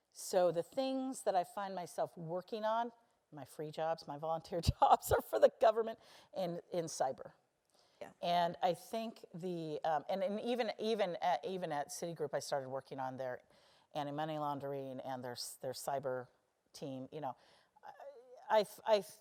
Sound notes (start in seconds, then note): 5.4 laugh